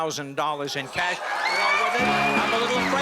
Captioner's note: screams